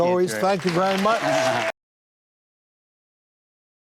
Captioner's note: applause